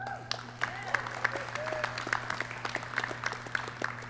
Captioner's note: clapping